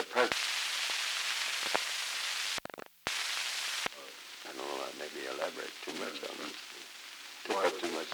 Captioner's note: Truman, mumbling